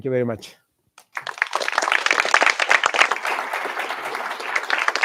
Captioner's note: applause